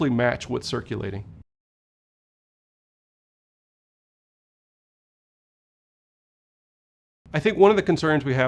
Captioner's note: no audio